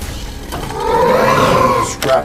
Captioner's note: roar – anger